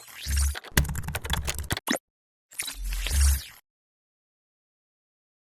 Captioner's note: keyboard clicking